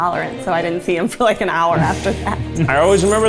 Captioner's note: laughs